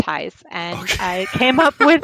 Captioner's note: laughing